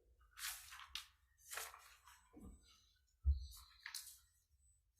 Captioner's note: paper rustling loudly